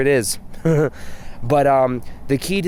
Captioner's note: laughs